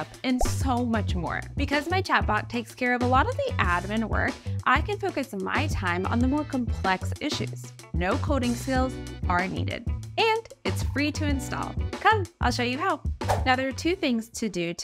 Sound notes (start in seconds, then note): 0.3 graphic blooping; 13.3 pane fwipping